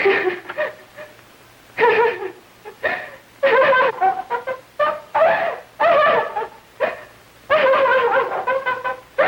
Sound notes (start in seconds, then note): 0.2 laughing; 6.5 screaming and laughing